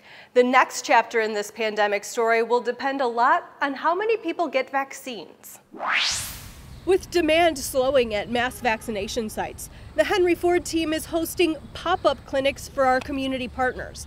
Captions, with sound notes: The next chapter in this pandemic story will depend a lot on how many people get vaccines. [sound effect] With demand slowing at mass vaccination sites. The Henry Ford team is hosting pop-up clinics for our community partners.